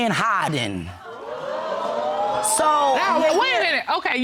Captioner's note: audience exclaiming